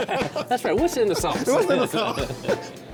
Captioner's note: both laughing